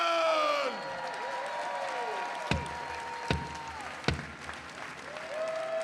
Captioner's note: attendees cheering and applauding